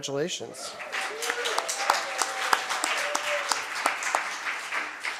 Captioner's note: cheers, applause